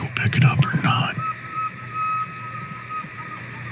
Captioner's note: elk bugle